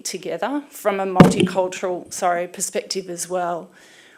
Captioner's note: hits microphone